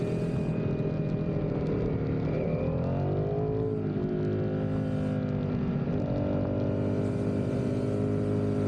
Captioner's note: engine roaring